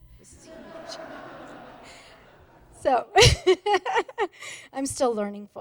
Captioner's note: laughter